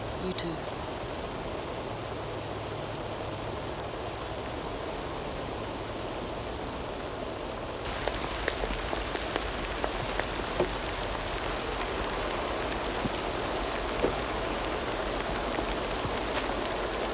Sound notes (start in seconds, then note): 2.2 rain pattering